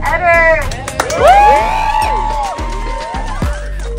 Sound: applause and cheers

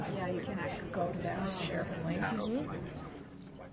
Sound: voiceover

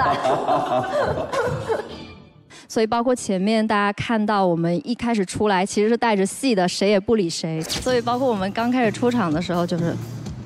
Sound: stage Boom

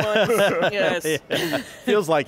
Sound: all laughing

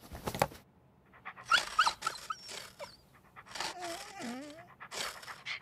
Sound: whines and claws at the door

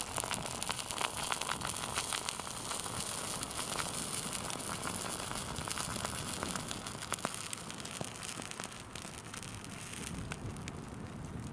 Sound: crackling and boiling sounds

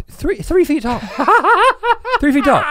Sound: laughs

